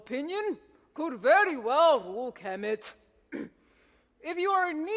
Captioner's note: clears throat